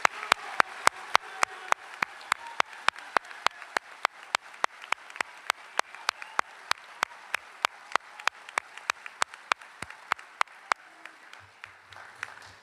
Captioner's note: applause